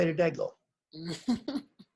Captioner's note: laughs